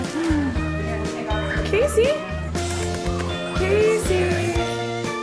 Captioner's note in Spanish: Sonidos de besos